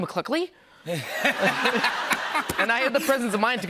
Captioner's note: laughter